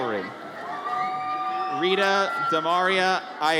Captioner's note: audience cheers